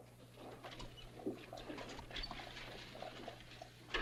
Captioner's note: horse hooves